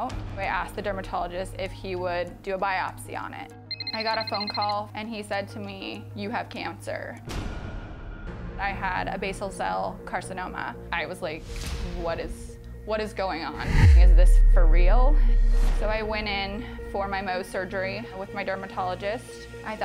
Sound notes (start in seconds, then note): 3.7 mobile ringing; 7.2 dramatic music